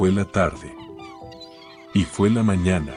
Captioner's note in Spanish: Sonido de gaviotas